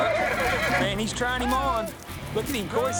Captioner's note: horse neighs, bucks